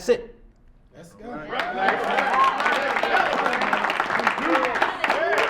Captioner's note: audience applauds